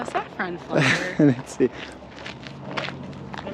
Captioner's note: laughs